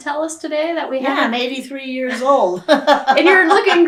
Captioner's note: laughs